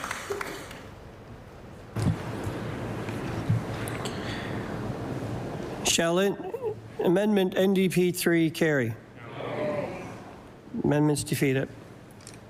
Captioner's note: applause